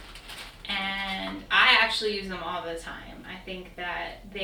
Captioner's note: crackling